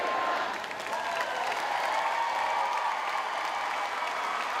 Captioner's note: audience applauds